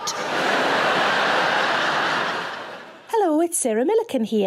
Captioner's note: audience laughing